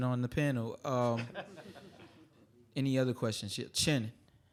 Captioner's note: audience laughing